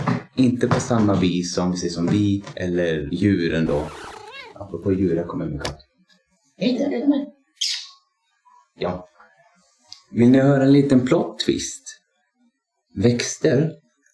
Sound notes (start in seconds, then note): 4.1 meow